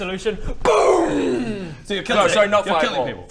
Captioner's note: boommmmm!!!!